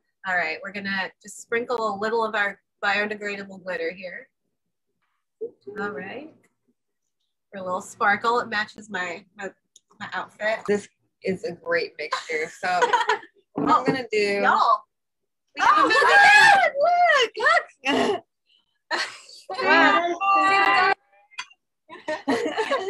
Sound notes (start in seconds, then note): 12.8 laughs; 15.6 laughs excitedly; 22.0 laughs